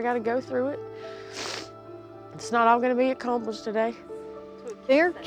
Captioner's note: sniffles